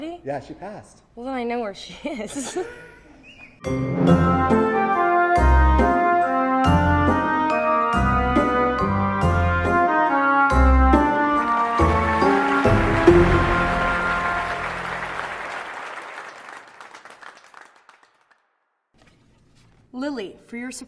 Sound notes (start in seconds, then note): 2.0 laughing; 3.7 upbeat music; 11.0 applause